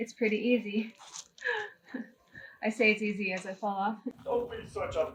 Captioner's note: laughs